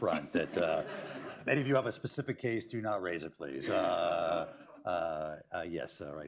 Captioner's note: laughter